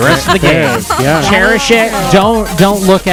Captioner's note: laughs